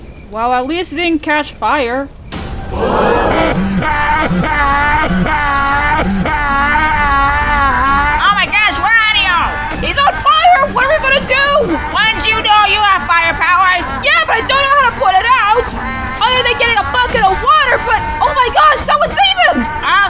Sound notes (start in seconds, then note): 2.6 crowd gasps and panicks, Wario screams